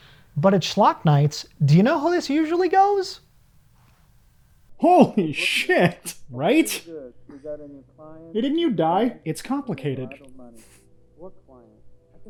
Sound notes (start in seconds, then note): 6.1 laughs